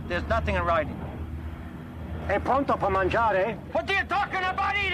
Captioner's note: speaking foreign language